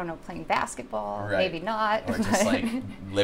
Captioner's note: laughs